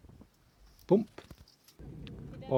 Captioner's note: bump!